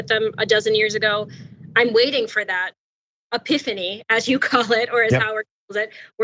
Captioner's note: laugh